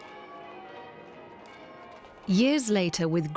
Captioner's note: bells ringing